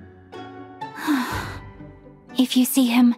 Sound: deep sigh

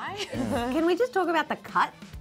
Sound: laughs

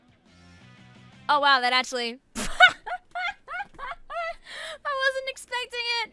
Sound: bursts into laughter

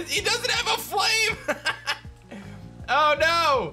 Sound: laughs

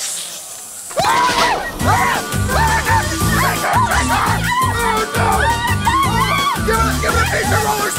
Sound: hissing; hysterical screaming

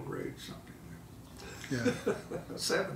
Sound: laughing

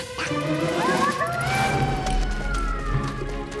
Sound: creatures grunting; creature yelling; adventurous music

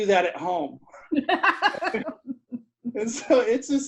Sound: laughs

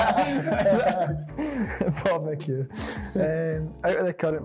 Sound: laughter; laughing

